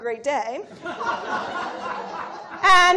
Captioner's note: laughter